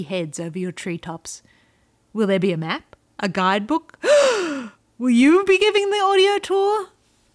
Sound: gasp

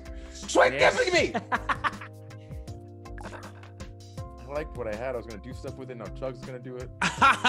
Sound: laugh; laugh

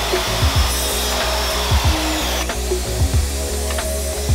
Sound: saw buzzing

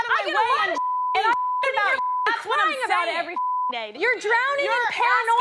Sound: beep

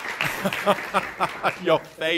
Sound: laughs

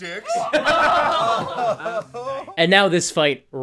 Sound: laughter

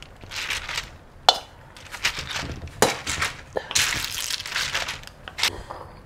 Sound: stirring sound

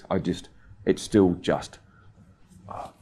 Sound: sighs

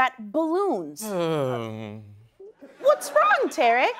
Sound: sighing

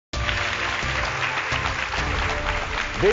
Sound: applause

